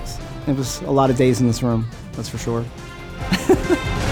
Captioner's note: laughs